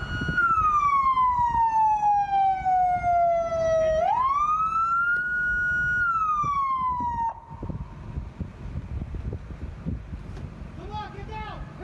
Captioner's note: sirens